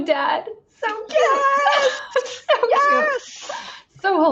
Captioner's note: laughs